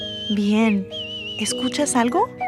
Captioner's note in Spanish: pájaros cantan